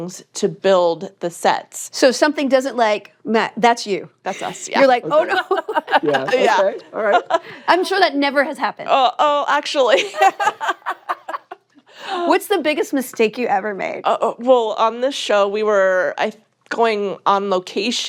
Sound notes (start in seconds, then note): 4.3 laughs; 9.9 laughter